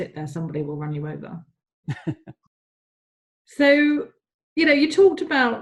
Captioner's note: laughs